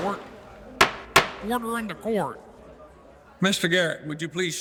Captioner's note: hammer thudding